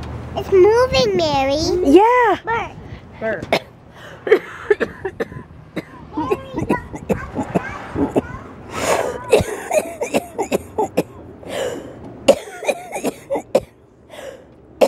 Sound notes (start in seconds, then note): 4.2 sound of coughing